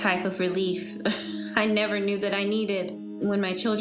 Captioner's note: chuckles